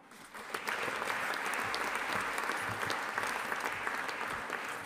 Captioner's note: audience applauding